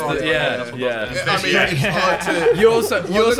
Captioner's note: Sidemen chattering